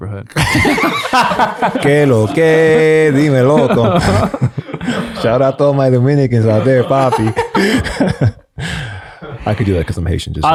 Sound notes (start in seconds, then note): 0.3 friars laugh; 2.0 Father PT speaks in a foreign language